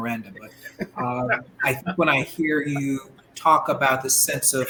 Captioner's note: laughter